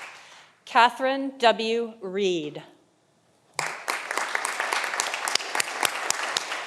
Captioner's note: audience applauding